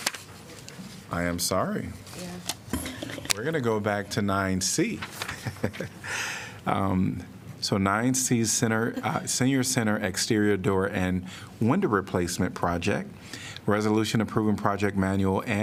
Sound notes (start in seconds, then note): 5.2 laughter